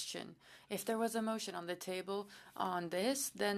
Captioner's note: speaking French